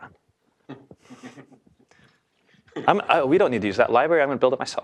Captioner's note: laugh